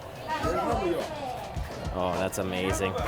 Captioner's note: crowd chatter